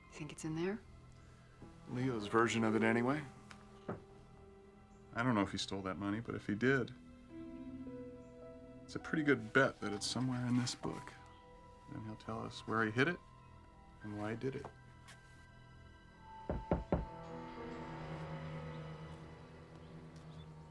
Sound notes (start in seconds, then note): 16.5 rapid knocking